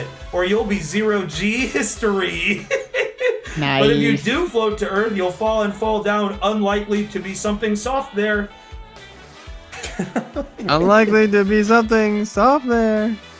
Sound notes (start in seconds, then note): 2.4 trying to rhyme it, laughing; 3.6 impressed; 9.7 laughing